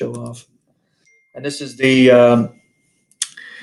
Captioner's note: cell phone chimes